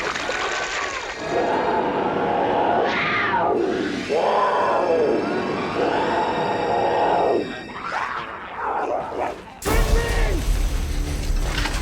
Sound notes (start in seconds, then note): 1.3 tense eerie music; 1.6 growling